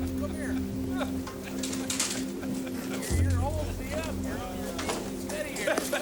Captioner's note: men chattering and laughing